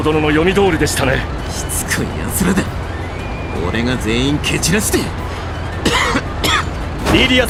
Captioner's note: cough cough